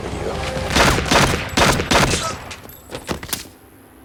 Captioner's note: gun fires